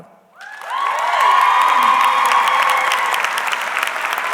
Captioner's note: audience clapping